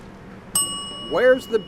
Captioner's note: bell rings